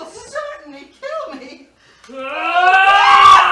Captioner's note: tony roars